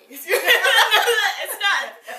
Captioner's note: both laughs